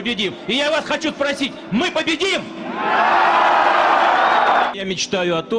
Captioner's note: people cheering, yeeees